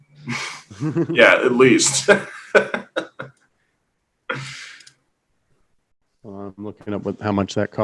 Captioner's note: laughs